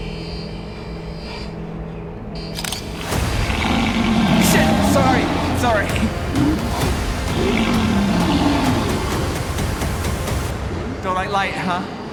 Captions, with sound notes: (shutter clicks) (creature roars) - Shit, sorry, sorry! (suspenseful orchestral music) Don't like light, huh?